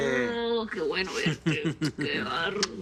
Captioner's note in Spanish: Risas